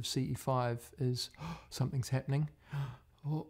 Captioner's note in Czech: lapání po dechu